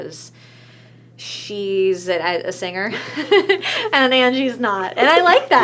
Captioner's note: laughs